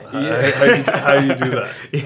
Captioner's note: laughs